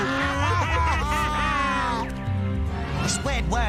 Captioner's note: cries